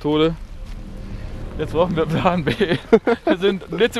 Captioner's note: nervous laughter